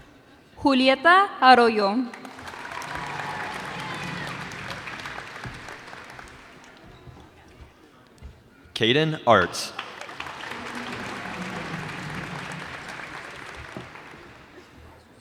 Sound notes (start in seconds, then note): 2.1 cheers and applause; 10.9 cheers and applause